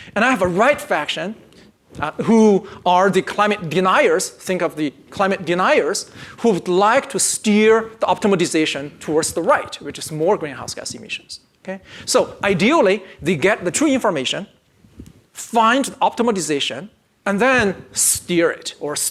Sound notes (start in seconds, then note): none